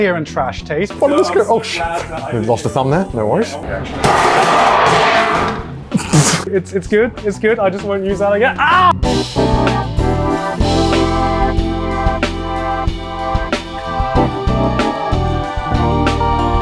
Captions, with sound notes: here on Trash Taste. - Oh shit, almost lost a thumb there. No worries. (aluminum top clatters loudly) - It's good. It's good. I just won't use that again. Ah! (classy music)